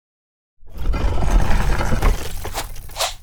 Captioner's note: stone scraping